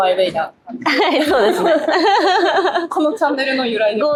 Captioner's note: laughs